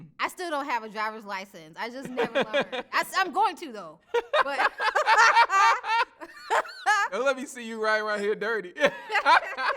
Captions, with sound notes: I still don't have a driver's license, I just never learned. I'm going to though, but. (both laughing) - Let me see you ride right here, dirty.